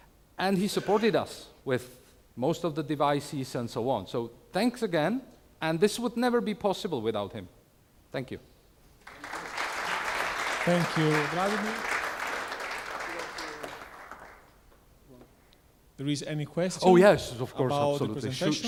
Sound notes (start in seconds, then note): 11.6 applause